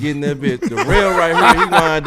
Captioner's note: laughing